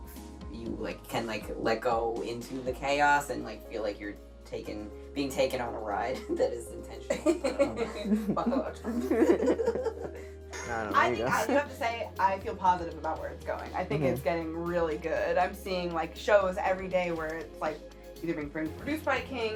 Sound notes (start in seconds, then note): 8.9 all laughing; 8.9 laughing